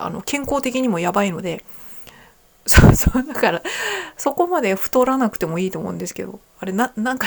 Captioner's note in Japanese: 笑い